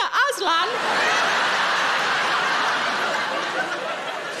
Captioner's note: audience laughing